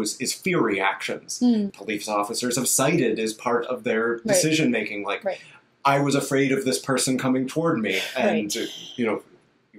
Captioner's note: sigh